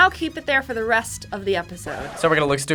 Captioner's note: record scratches